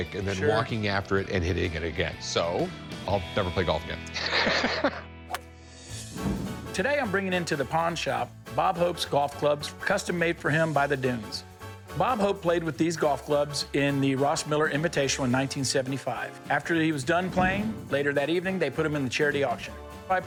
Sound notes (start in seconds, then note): 4.1 laughs